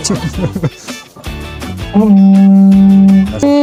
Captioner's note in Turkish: kahkaha